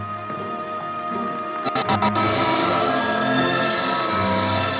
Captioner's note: transformation sound